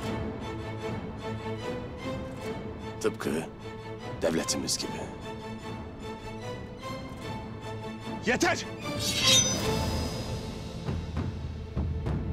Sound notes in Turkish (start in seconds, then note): 9.0 Kılıç sesi; 10.3 Müzik - Gerilim